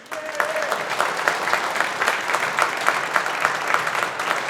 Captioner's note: audience applauding